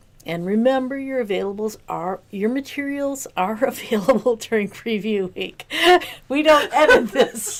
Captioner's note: laughter